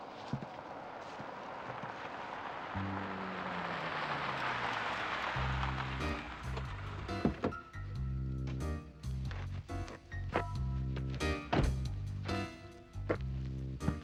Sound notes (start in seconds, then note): 1.5 engine revving; 6.3 quirky upbeat music